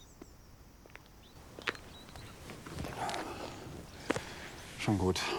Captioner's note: birds chirping